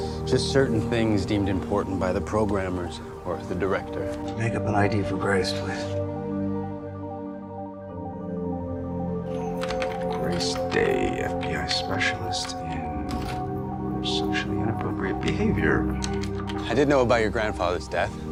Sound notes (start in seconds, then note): 13.9 Philip tapping the keys on his keyboard; 16.8 voiceover